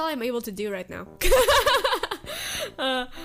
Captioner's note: laughs